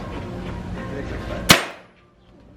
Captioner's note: gun fire